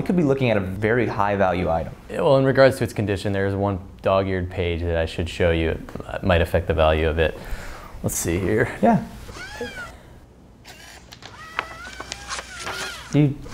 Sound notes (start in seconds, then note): 9.2 whirring